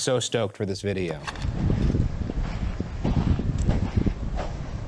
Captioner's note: wind rushes